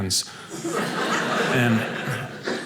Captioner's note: audience laughing